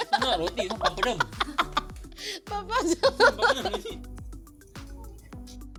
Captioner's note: laughs